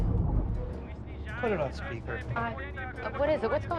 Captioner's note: men shouting in foreign language